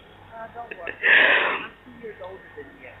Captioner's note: laughs